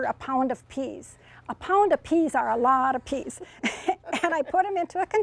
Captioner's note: laughs